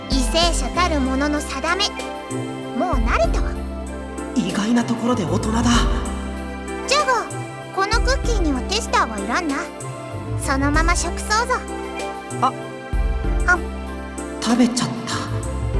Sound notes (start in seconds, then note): 13.8 nom